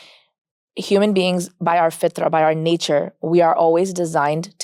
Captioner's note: speaks Arabic